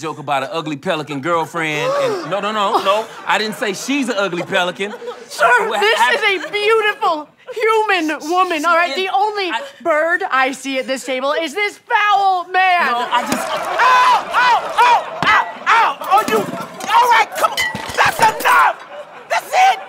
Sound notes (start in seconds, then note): 1.7 gasping; 5.3 impassioned; 13.2 thud